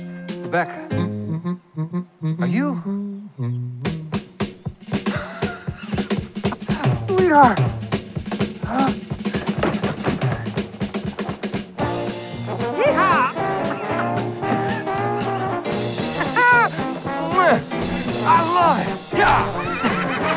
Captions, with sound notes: Rebecca! Are you...? [laughs] Sweetheart! Yeehaw! [laughing] Our life. Yeah.